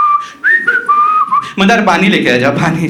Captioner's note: whistling